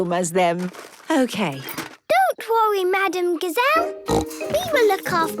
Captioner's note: snorting